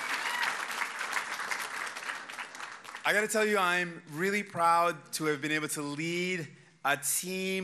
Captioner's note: applause